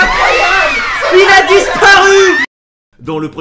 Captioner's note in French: Crie en fond